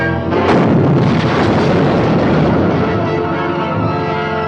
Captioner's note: explosive booming